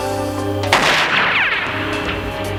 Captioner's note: gunshot